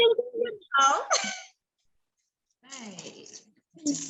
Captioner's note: laughs